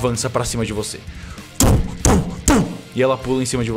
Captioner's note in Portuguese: tum tum tum